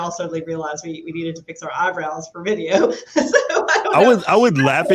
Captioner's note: laughs